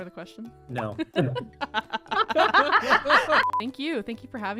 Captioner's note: laughing